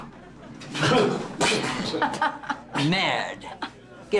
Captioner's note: group spitting; girlfriend laughing